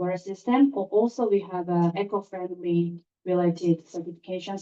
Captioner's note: German